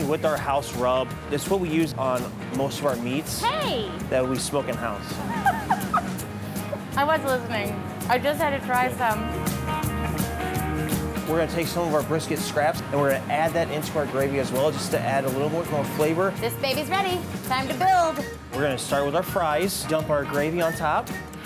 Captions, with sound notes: - Our brisket is seasoned with our house rub, it's what we use on most of our meats, that we smoke in house. (giggling) - I wasn't listening. I just had to try some. (upbeat music) - We're gonna take some of our brisket scraps and we're gonna add that into our gravy as well, just to add a little bit more flavor. - This baby's ready, time to build. - We're gonna start with our fries, dump our gravy on top.